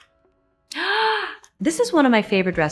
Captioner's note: Anne gasping